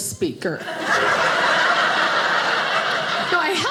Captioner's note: audience laughing